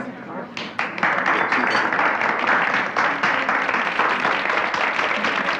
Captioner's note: audience applauding